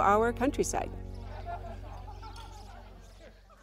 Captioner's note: women chatting